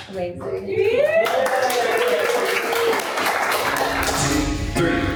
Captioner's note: cast and crew cheer and applaud